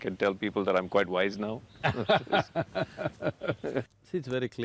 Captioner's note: Sadhguru laughs